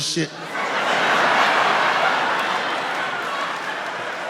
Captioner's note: laughing